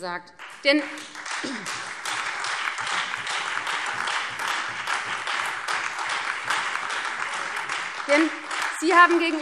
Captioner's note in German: Beifall Freie Demokraten, SPD, DIE LINKE und vereinzelt AfD